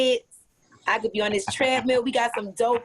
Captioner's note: laughing